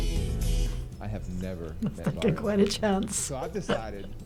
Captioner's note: laughs